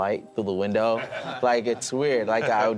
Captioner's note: laughing